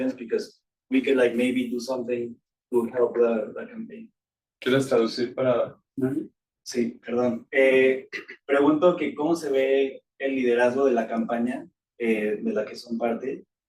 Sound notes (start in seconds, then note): 4.8 attendee speaking Spanish